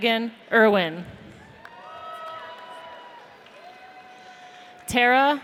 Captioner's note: audience cheers